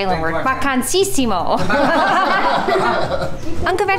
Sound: all laugh

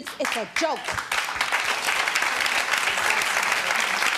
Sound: clapping

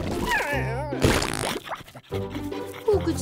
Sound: farting

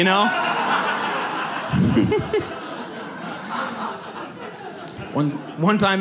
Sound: audience laughs

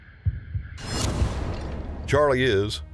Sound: dramatic transition noises

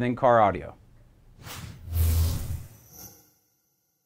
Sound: zapping

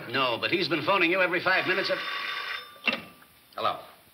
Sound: phone rings

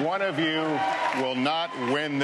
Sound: applause

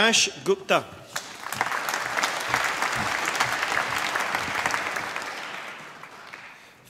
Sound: applause

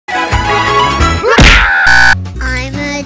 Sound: smack

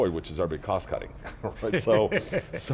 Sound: laughs

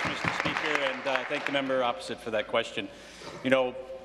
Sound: applause; cheers

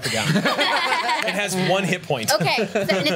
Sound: laughs

